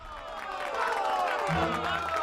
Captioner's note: cheers and applause